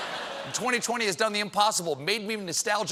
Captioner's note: laughter